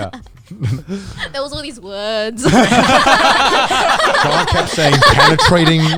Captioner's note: all laughing